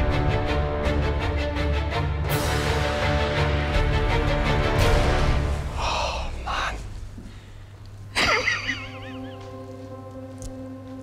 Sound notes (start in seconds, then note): 5.7 sighing; 8.1 laughter